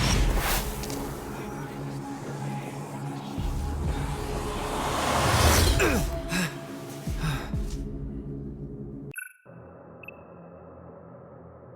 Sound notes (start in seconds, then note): 5.6 grunting; 7.3 beeping